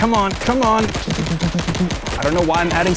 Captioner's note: shooting sounds